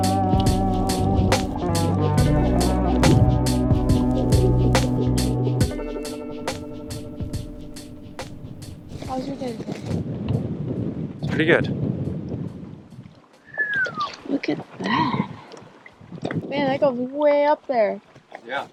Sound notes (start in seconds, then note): 13.4 whistling